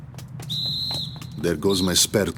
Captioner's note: whistle blows